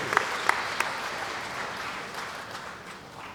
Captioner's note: applause